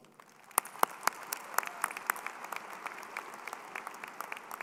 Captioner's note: crowd applauding